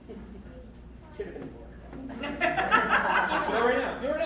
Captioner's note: crowd laughs